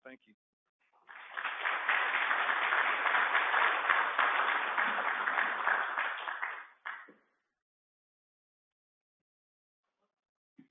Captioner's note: applause